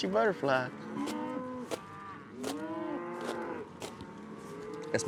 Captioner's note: mooing